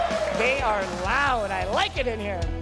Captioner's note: applause